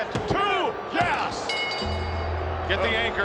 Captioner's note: bell dinging